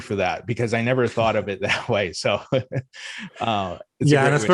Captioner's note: laughs